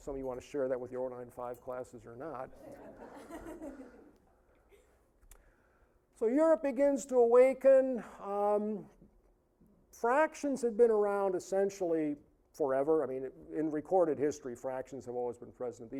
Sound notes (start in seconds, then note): 2.6 audience laughing